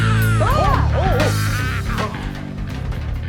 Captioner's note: Peach and the Necromaster gasp